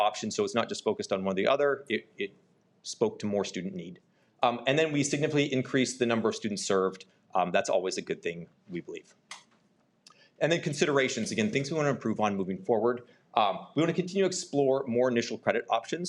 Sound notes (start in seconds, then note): none